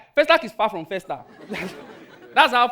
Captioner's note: audience laughing